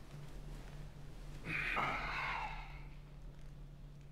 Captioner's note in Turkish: Nefes sesi